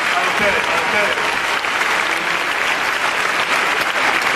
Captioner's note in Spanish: aplausos y ovación